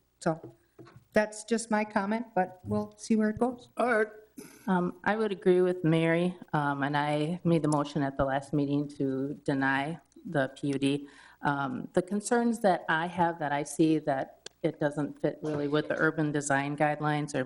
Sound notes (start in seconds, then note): none